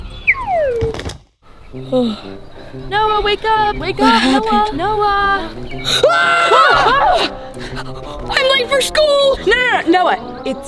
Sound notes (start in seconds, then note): 0.0 slide whistle; 5.8 all screaming